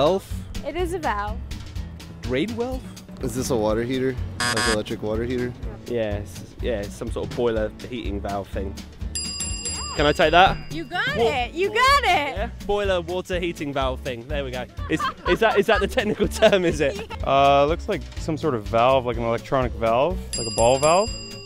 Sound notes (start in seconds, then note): 4.4 buzzer; 9.2 ding; 20.3 ding